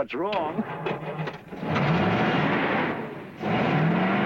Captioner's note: engine revs